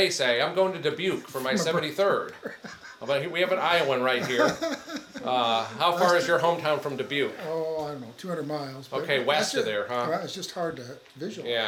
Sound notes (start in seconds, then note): 4.7 attendee laughing